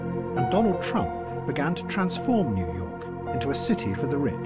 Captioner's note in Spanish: none